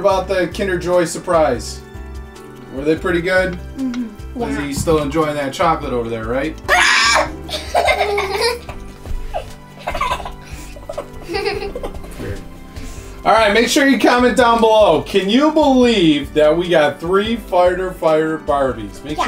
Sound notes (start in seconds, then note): 6.6 screams; 6.8 laughs